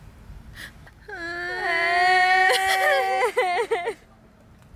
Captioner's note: crying